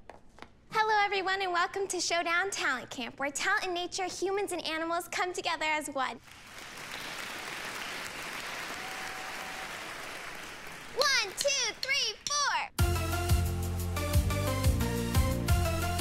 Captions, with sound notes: - Hello everyone and welcome to the Showdown Talent Camp. Where talent and nature, humans and animals come together as one! (audience applauding) One-Two-Three-Four! (bright music)